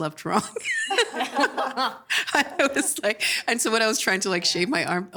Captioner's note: laughing